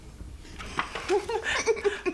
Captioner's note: chuckling